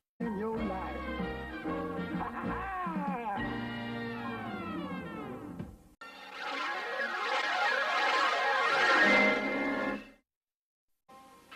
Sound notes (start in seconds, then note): 0.2 music finishes in a music snippet; 6.1 swirling sounds resuming